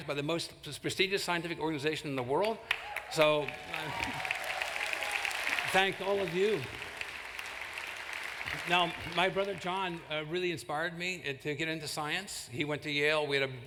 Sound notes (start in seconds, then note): 4.1 applause